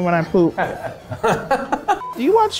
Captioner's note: laughing